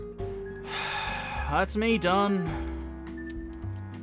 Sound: sigh

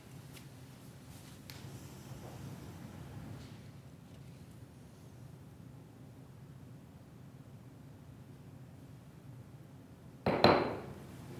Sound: moment of silence

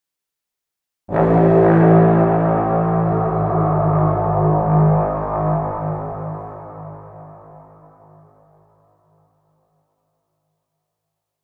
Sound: sound of horn

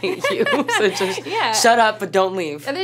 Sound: laughter

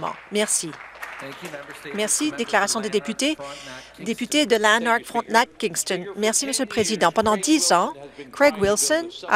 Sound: some Applause

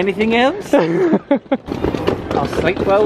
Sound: laughing

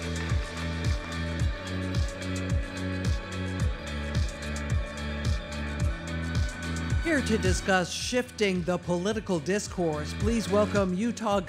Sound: applause

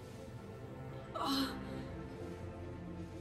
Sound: groans

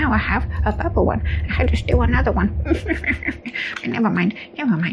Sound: awkward chuckle

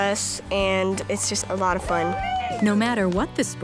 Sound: cheering

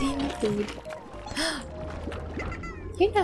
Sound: gasp

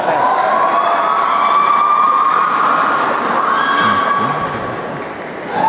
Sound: applause

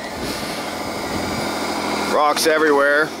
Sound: tractor engine runs

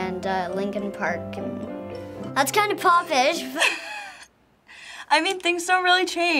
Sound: giggling

